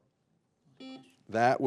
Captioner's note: buzzer buzzing